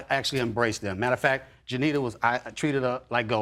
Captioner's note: none